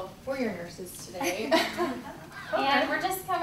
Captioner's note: laughing